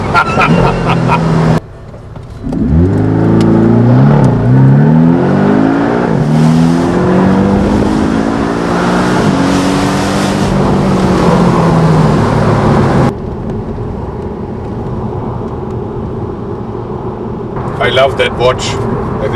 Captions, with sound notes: *Laughter* *Sound of the car accelerating into the turn* *Engine noise increases as car continues to accelerate* *Sounds or road noise and air rushing past the open top of the vehicle* *Quiet hum of road noise within the vehicle* I love that watch